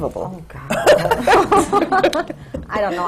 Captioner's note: laughter